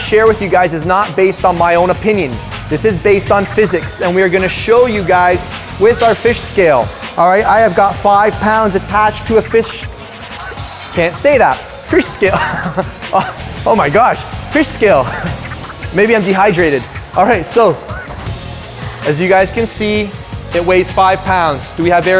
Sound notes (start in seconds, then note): 12.0 laugh